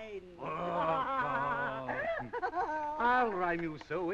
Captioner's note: laughing